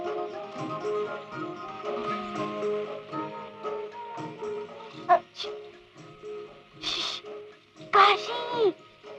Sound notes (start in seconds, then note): 6.8 calling out